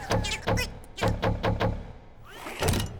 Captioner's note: chattering; banging